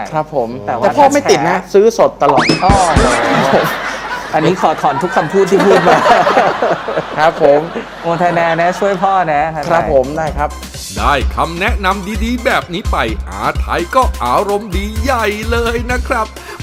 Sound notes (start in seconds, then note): 2.5 laughing